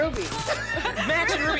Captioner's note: static